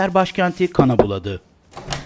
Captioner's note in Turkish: Kapı vurulma sesi; Kapı açılma sesi